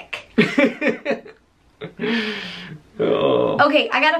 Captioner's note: laughter